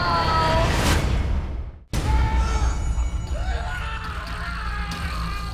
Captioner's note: man screaming